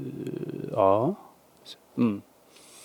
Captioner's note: take a deep breath